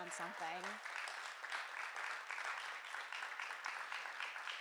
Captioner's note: audience applauding